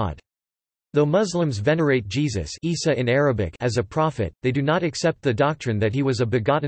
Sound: Isa in Arabic

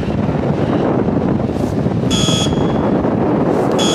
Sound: buzzer

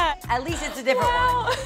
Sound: laughing

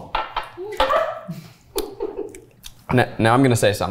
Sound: laughing

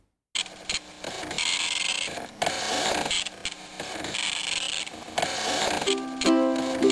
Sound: nostalgic dot matrix printer noise

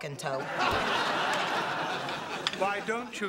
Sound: laughter

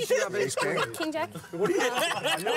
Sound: laughter

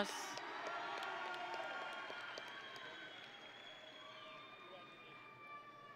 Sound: audience and graduates cheering

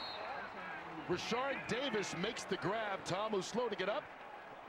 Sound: speaking on the field

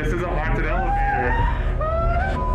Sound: gasping

